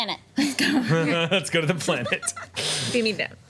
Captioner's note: laughs